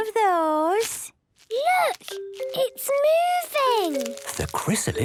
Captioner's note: whispering